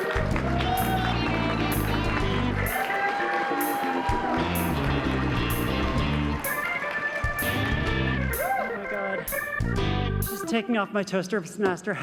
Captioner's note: cheers and applause